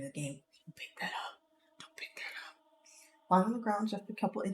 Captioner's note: whispering